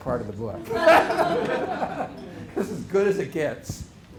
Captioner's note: laughter